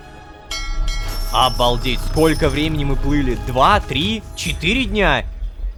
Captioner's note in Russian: Звук корабельного колокола